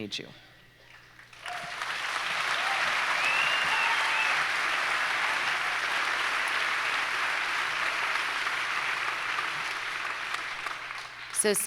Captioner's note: audience applauds